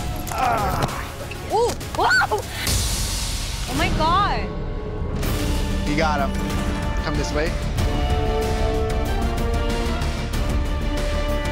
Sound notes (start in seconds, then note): 0.2 grunting